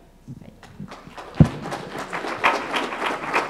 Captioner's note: applause